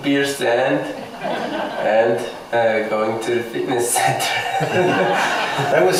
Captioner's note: laughs